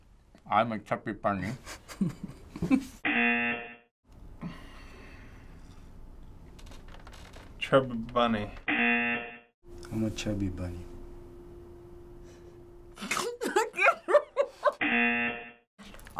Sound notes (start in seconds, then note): 1.6 chuckles; 3.0 buzzer; 8.6 buzzer; 13.0 laughs; 14.8 buzzer